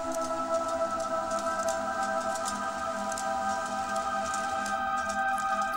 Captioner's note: film reel clicking